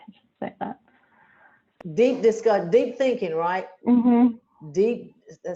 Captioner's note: laughs